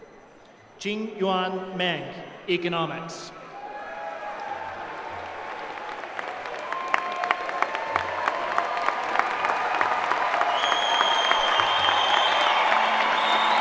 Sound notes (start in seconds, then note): 8.0 applause